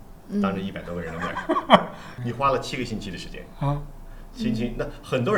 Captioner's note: laughter